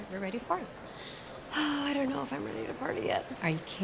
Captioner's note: sighs